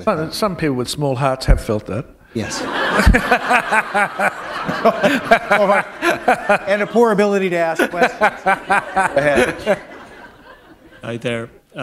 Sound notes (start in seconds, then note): 2.4 laughter